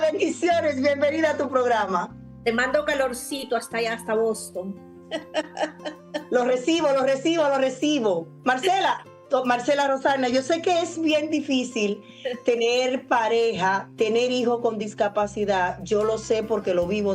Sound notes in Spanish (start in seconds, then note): 5.0 risas